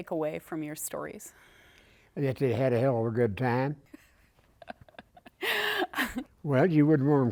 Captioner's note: laughter